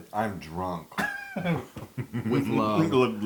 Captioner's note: laugh